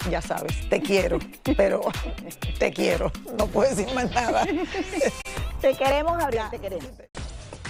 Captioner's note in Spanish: risas